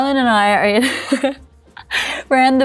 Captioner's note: laughs